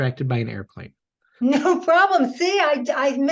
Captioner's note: chuckles